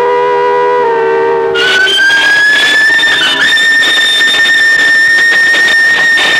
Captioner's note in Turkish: Tren düdüğünün ıslığı